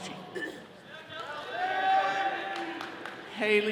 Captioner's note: all cheering